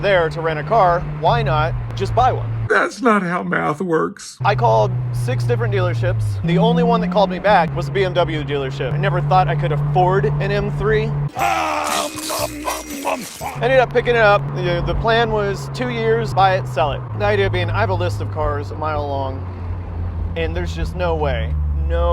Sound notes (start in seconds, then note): 11.4 Cookie Monster eating cookies